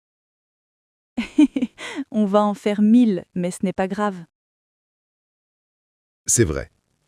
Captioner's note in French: rire